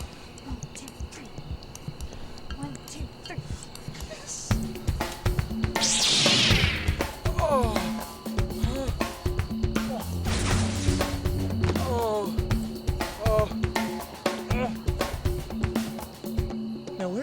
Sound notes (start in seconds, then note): 7.3 groans; 11.7 groans concernedly